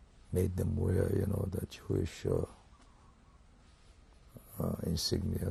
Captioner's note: pauses for 3 seconds